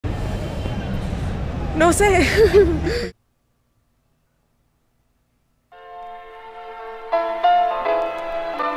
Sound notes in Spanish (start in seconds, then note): 2.2 Risas